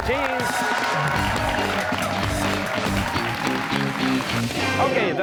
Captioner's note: cheers and applause